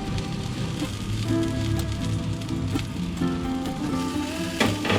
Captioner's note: crackling and popping of the siobak fairy magic at work